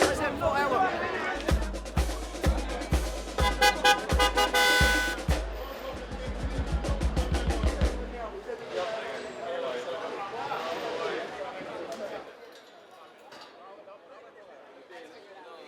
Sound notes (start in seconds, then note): 0.1 background chatter; 1.3 upbeat percussion music; 3.4 car horn honking; 5.5 background chatter